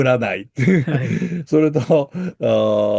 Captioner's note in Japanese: 笑い